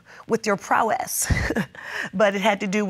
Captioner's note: laughs